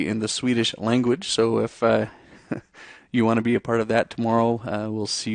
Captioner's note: chuckles